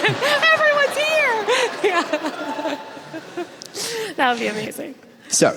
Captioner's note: audience laughs